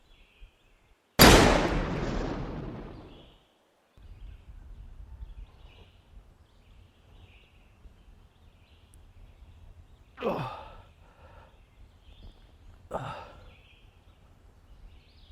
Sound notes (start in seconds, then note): 1.2 rifle fires; 3.2 birds chirping; 10.2 Arawn groaning